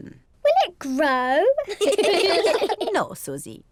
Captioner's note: all laugh